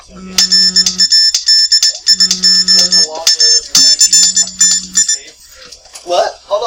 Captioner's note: alarm sounding